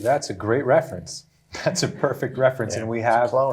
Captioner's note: chuckling